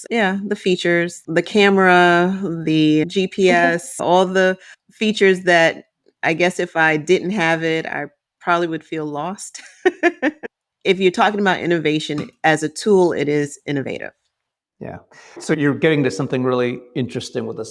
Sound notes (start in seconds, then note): 9.5 laughing